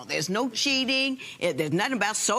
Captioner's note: none